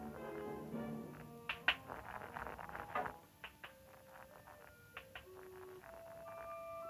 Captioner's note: rock tapping; rock scraping